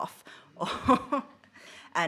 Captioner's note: she laughs